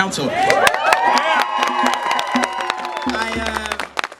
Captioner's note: cheering!